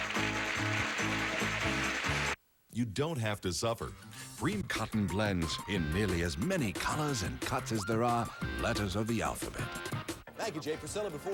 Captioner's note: audience applauding